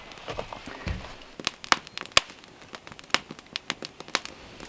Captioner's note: fire crackling